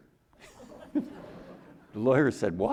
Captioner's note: audience chuckling